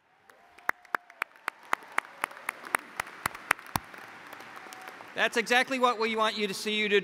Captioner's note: applause